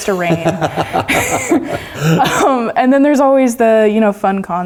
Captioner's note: laugh